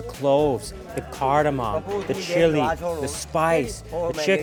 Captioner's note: man speaks foreign language